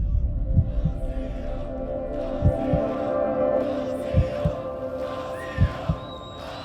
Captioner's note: audience screams: “ !”